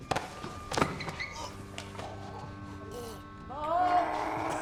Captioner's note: choking